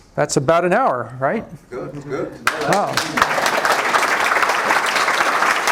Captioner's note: applause